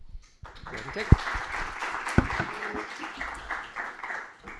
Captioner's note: applause